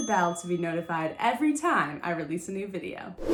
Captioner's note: bell ding